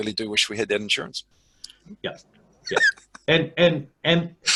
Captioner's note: laughing